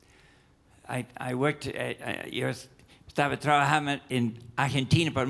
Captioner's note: speaks in Spanish